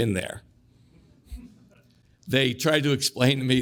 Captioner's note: audience chuckles